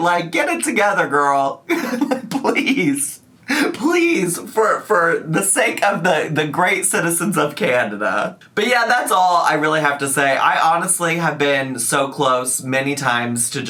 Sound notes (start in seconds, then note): 1.6 laughs